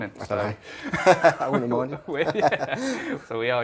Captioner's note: laughs